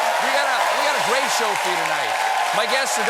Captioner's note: cheers and applause